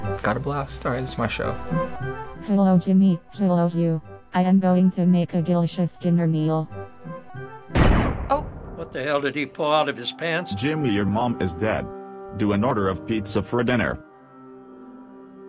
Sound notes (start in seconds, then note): 7.7 gun blast